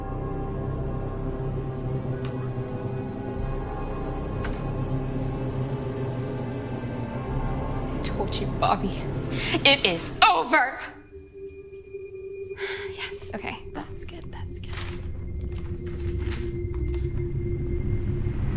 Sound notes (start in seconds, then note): 16.1 script rustling